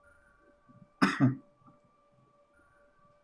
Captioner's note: coughs